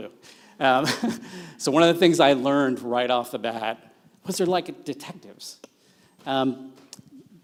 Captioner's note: laughs